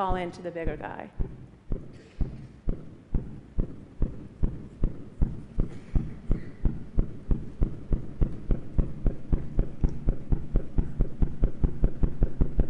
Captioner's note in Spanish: Golpeteo